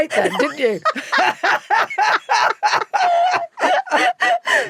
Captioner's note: both laughing